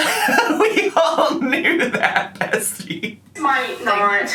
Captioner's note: laughs